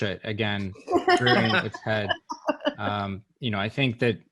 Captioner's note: panelists laugh